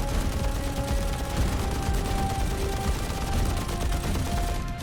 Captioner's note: gunfire